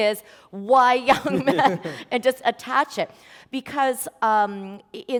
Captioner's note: chuckle